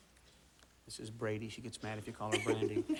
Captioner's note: whispers